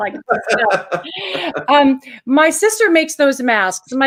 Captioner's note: laughs